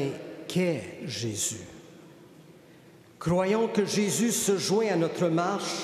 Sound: speaking French

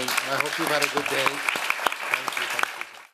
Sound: applause

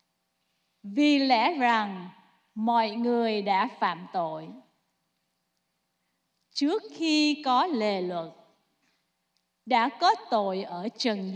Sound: speaking non-english

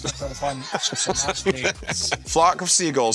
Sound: laughs

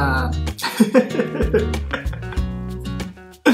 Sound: laughs

